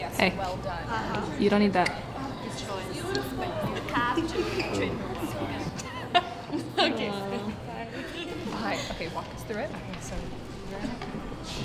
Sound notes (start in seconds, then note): 4.1 chattering